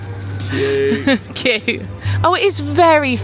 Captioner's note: laughing